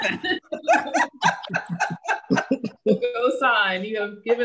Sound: laughter

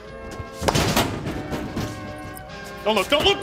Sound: speed bag hitting

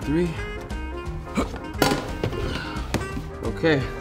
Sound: grunts

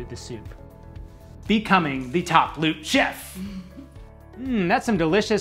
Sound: giggles

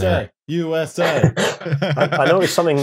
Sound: laughter

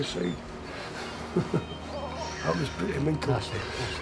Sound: chuckles

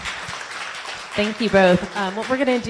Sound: audience applause

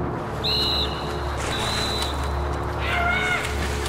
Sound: whistle blows

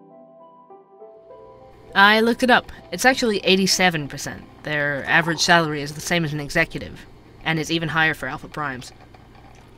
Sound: ambience - coffee shop

